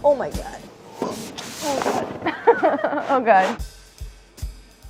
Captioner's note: groaning; laughs; light percussion music